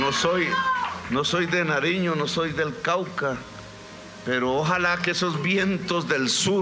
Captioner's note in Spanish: Aplausos